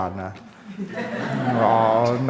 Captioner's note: laughs